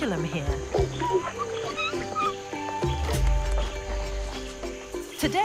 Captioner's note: orangutans squeaking